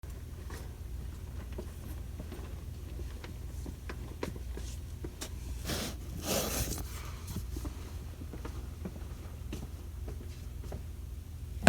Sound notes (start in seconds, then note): 2.3 footsteps; 5.6 book sliding off shelf; 8.3 footsteps